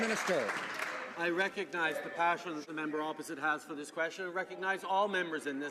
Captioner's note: applause